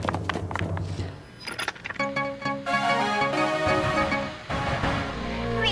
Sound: news broadcast noise over ominous music

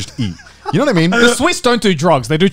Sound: laughing

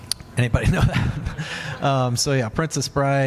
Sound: laughs

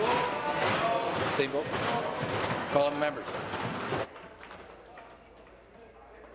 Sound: tapping on desks

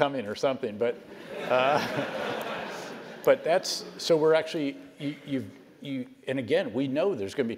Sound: laugh

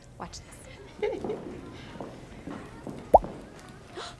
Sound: footsteps clicking

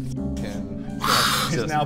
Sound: hisssss

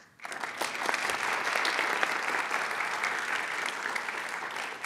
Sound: audience applauds

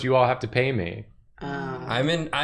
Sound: groans in displeasure

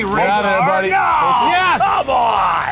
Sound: screams

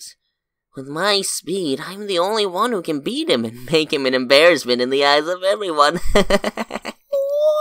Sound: chuckles

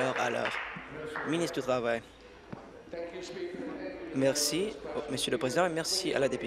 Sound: applause

